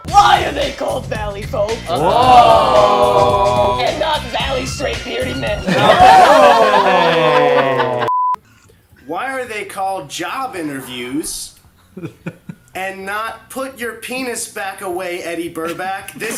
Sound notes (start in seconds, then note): 5.6 group laughs